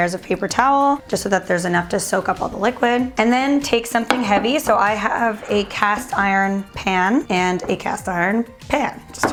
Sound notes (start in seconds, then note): 4.0 clattering